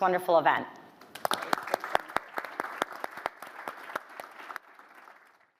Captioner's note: audience clapping